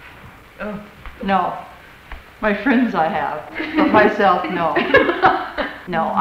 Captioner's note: laughter